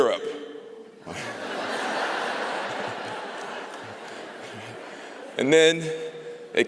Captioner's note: laughter